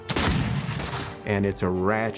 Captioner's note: gunfire